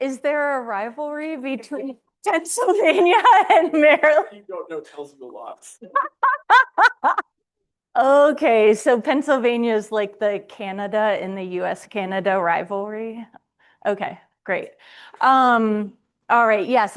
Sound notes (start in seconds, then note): 5.7 laughs